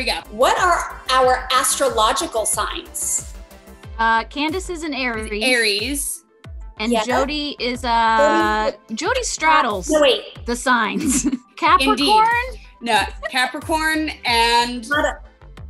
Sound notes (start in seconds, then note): 10.9 laughing